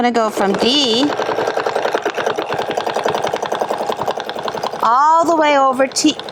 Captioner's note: machine whirring